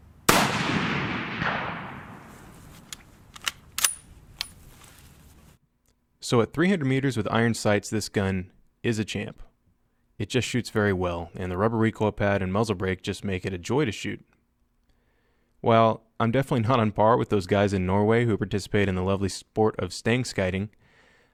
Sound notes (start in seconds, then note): 0.2 gun fires; 3.2 gun cocks